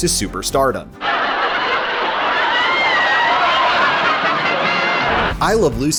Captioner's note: audience laughter